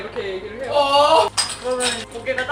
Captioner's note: screaming